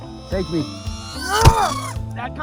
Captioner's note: grunts in pain